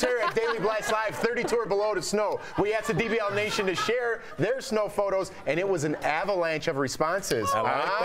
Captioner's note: laughter